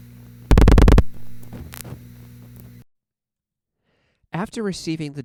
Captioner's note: 5 loud clicks, 3 fast quiet clicks